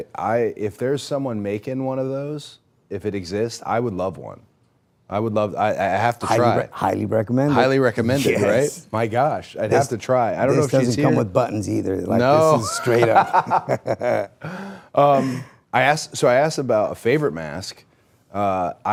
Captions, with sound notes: If there's someone making one of those, if it exists, I would love one. I would love, I have to try it. Highly recommended. Highly recommended, right? My gosh. I'd have to try. This doesn't come with buttons either. No. (laughs) This is straight up. So I asked about a favorite mask.